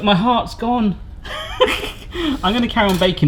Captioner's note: laughs